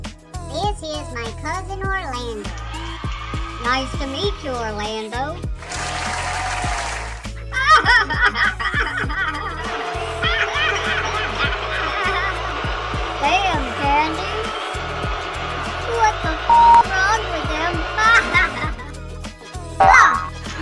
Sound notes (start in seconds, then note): 7.4 laughing; 18.0 laughing